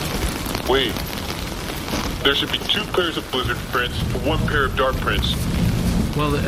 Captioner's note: hesitant